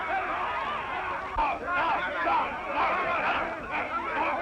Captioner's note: all shouting